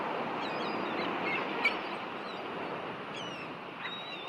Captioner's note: birds chirping